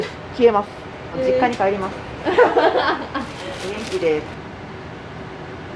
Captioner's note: laughter